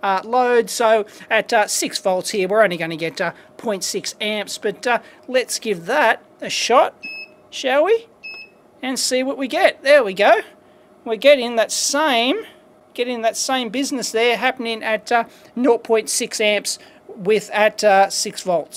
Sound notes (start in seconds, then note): 4.0 beep